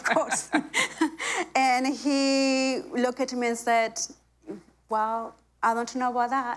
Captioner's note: laughter